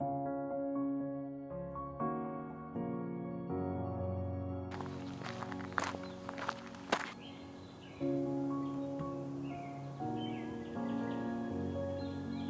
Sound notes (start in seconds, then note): 0.0 gentle music; 4.7 footsteps; 4.7 birds chirping